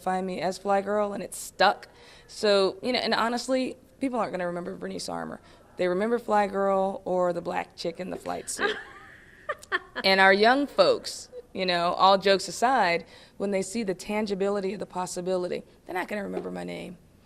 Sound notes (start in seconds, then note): 8.1 laughing